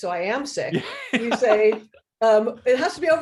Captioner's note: laughs